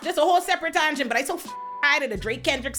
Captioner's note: beep